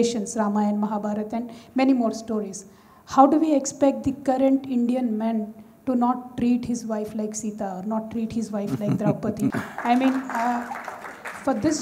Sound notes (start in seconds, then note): 8.6 Sadhguru laughs; 9.4 applause